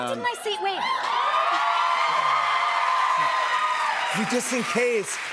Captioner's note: cheers and applause